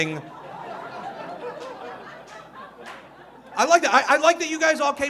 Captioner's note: audience laughing